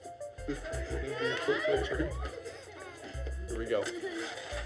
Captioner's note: laughs; laughter